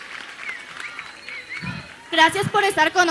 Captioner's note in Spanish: aplausos